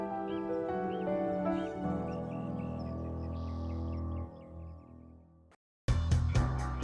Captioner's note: birds chirping